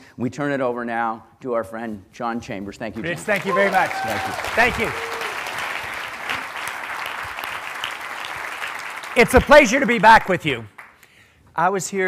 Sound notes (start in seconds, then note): 5.1 applause